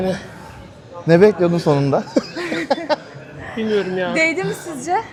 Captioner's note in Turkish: kahkaha